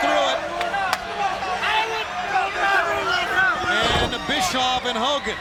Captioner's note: fans chattering